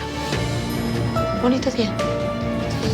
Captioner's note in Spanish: Campanilla del elevador